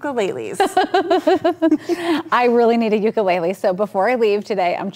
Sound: laughing

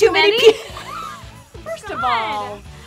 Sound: laughing

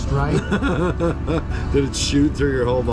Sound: laughing

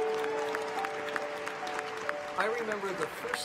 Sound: applause

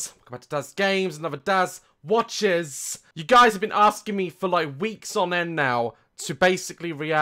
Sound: none

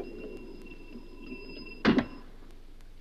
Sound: chest thuds

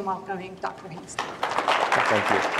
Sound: applause

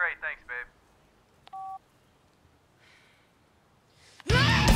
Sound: hang up beep; heavy metal music

